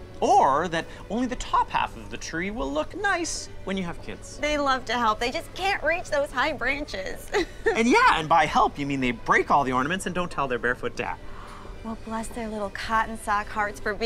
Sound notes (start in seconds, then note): 7.3 laughing